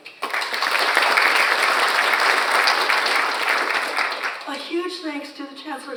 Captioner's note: audience applauds